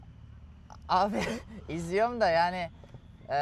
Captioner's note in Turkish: boğazını temizler